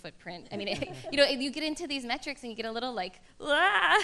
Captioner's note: laughter